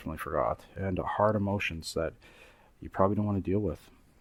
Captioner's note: breath